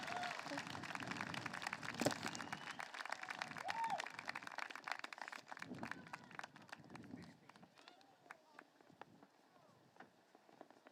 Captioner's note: applause